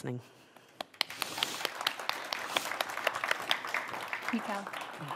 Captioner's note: applause